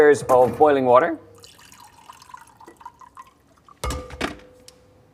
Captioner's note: water pouring